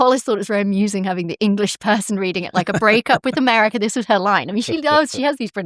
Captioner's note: laughter